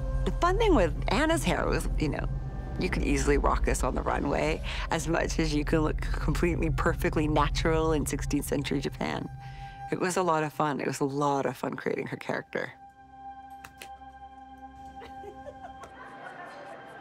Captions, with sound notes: The fun thing with Anna's hair was, you know, you could easily rock this on the runway, as much as you can look completely perfectly natural in 16th century Japan. It was a lot of fun. It was a lot of fun creating her character. [CLAPS] [LAUGHS]